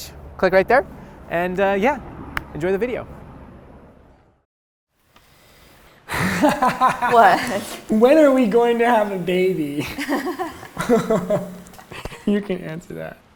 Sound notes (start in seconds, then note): 6.1 laughs; 9.7 both laugh